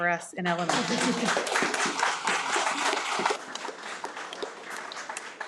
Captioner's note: audience applauding